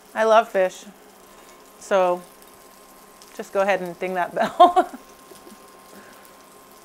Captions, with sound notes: I love fish. So, just go ahead and ding that bell. (laughs) (fish sizzling)